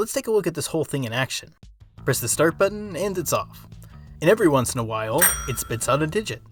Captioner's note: ding